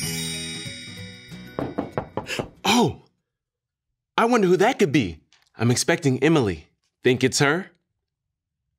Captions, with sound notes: (knocking on door) - Oh. I wonder who that could be. I'm expecting Emily. Think it's her?